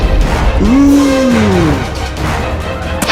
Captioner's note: gasps